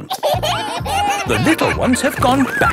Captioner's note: kids giggling